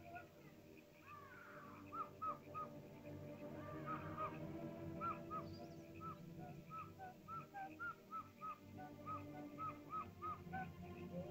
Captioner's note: animal howls; ominous music; animal chirping sounds